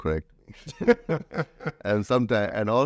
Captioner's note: both laughing